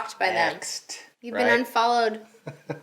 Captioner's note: laughing